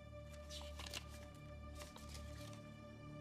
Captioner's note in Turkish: Kâğıt sesi